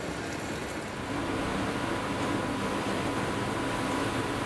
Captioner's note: machinery humming